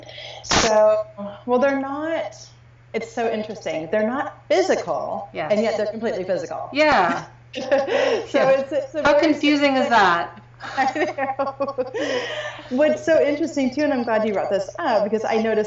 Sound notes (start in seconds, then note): 7.5 laughing